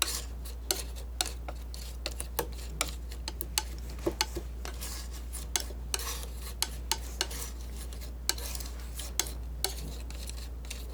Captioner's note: tapping